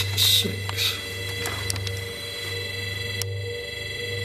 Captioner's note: beeping